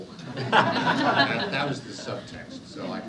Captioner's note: audience laughs